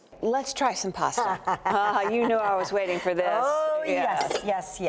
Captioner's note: laughs